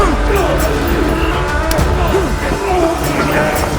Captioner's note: grunting